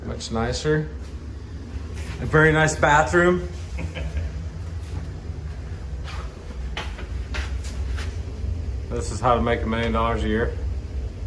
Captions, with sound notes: It looks nicer. A very nice bathroom. (laughing) This is how to make a million dollars a year.